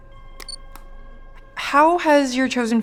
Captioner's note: camera beeps